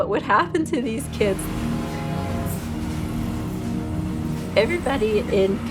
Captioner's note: train sounds